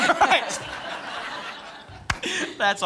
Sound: laughter

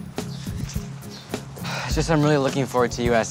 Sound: sighs

